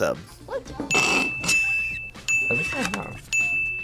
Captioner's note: React laughs